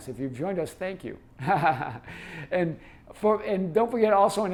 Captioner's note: laughing